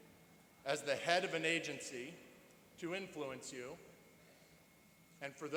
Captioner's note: none